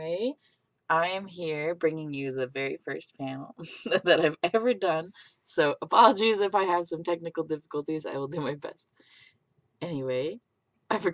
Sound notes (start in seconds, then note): none